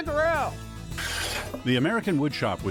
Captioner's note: saw scrapes